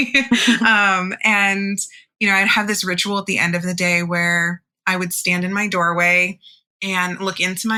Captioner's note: laughs